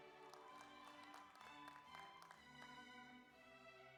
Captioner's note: audience applauds